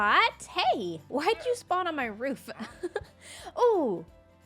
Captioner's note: laughs